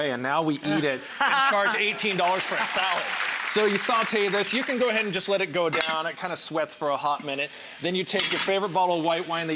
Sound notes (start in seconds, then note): 1.2 laughs; 1.7 crowd claps